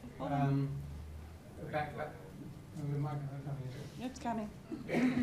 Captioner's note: murmurs